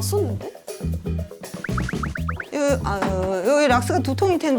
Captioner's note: shake shake